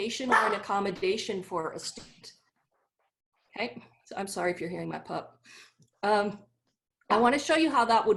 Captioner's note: bark